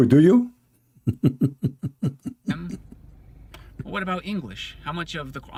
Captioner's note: Ketawa